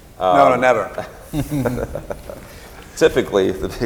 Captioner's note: laughs